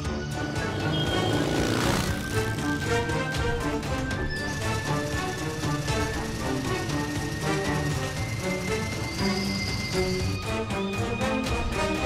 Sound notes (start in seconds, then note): 0.3 Owen and velociraptor Blue speed off together, motorcycle engine revving; 6.1 Large truck-Gyrosphere Blast Vehicle-engine making sounds